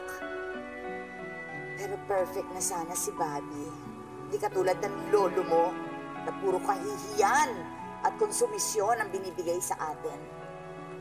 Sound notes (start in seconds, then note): none